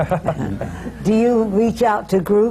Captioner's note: laughter